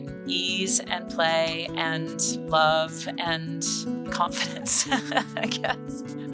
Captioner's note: chuckles